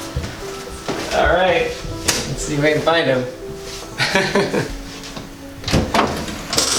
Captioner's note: laughs